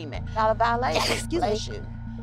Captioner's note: Soledad sneezing